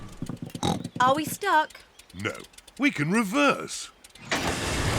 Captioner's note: snorts